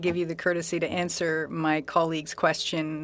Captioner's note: speaking French